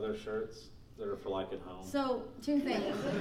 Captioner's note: laughing